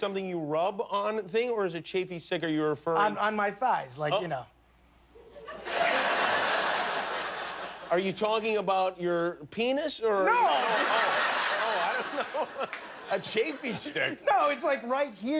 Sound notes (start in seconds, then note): 2.2 laughter; 10.4 laughter